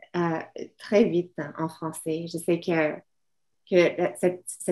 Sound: speaking French

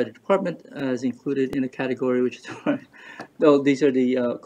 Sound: laughs

